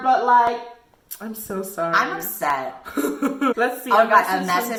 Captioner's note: giggles